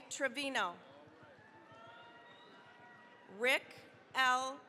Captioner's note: cheering, applause